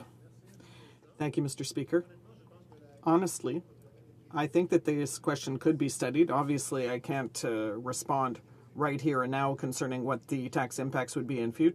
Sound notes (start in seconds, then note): 5.1 speaking French